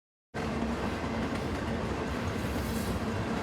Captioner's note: train rumbling